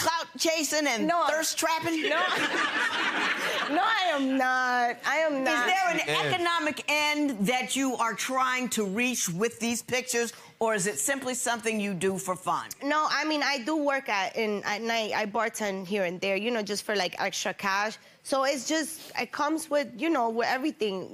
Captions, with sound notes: Are you clout chasing and thirst trapping? - No (laughs) no I am not, I am not. with these pictures, or is it simply something you do for fun? just f